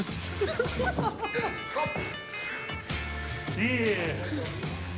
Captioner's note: both giggle